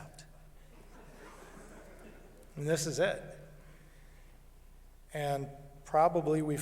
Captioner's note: laughter